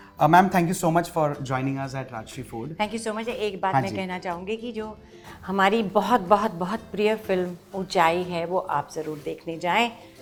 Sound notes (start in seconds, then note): none